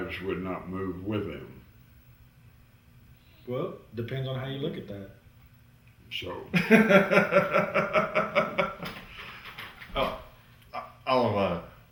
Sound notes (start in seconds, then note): 6.5 laughter